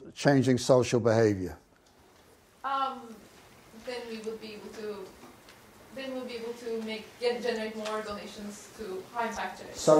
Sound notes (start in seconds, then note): 3.9 voiceover